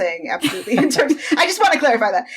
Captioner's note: laughing